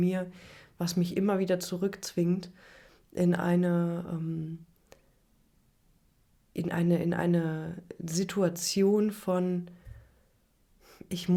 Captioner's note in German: schnauben